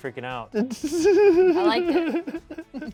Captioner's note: laughs